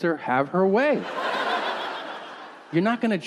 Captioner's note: audience laughing